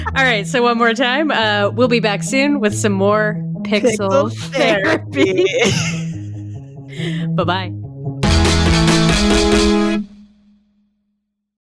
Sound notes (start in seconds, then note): 6.4 both laugh